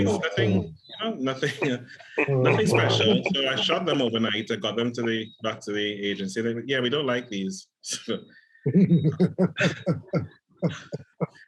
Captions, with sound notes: Nothing, nothing. Nothing special. [Groans] So I shot them overnight. I got them to the back to the agency. Yeah, we don't like these. [Laughs]